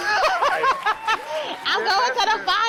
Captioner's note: laughs